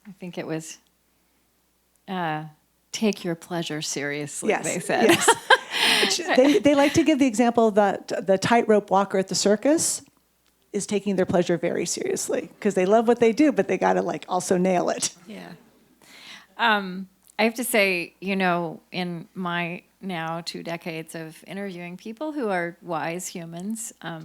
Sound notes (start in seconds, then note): 4.4 laughs